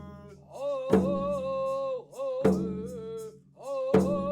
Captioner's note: chanting